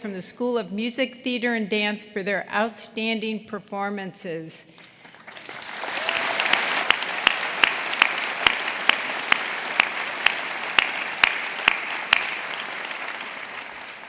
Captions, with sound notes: from the School of Music, Theater and Dance for their outstanding performances. (audience applauding) (audience cheering)